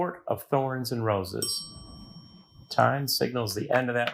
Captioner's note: bell clangs